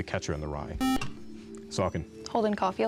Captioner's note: buzzer